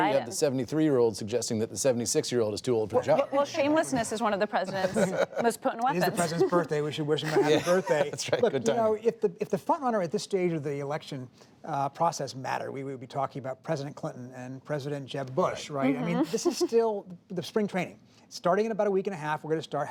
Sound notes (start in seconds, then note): 4.7 laughter; 10.2 laughs